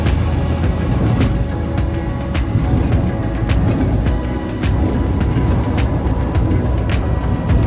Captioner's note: floats splash down